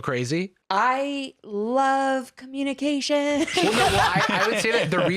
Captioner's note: laughs